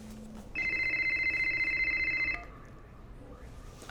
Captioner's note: phone ringing